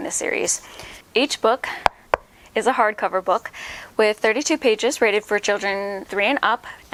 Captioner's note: knocking sound